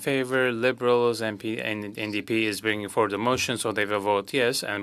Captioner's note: speaking French